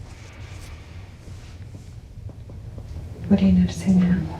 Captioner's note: breathes deeply